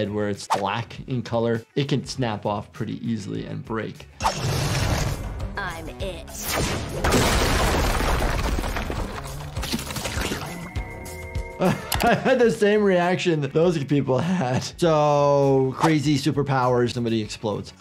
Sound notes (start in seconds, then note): 6.4 explosive sound; 11.6 laughs